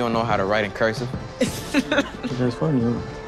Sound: Maisha laughing

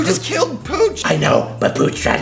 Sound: deep voice

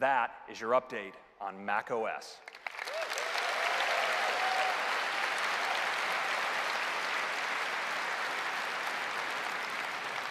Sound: cheers and applause

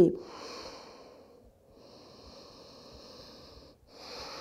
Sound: deep breathing

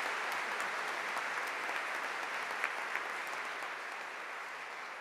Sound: audience applauding

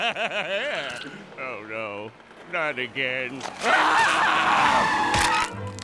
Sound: laughing; screaming

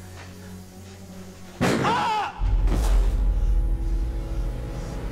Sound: gun fires

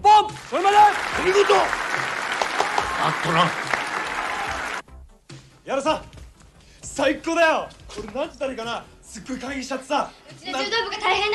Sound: applause

